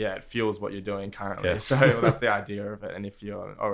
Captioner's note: laughs